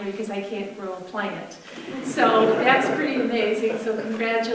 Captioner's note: audience laughter